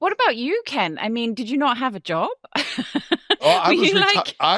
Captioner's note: chuckling